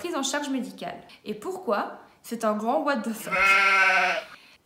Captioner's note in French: bruit de chèvre